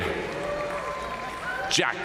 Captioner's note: audience cheering and applauding